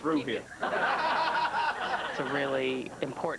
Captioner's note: laughter